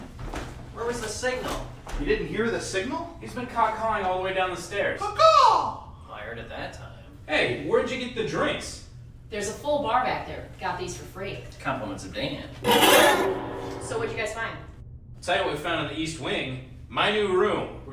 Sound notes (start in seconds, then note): 12.6 scary scraping